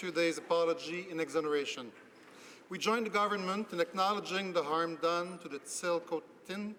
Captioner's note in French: voix de l'interprte